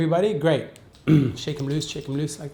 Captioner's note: throat clearing